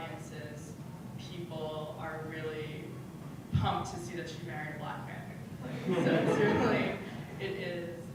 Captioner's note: laugh